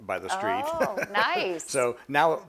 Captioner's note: laughs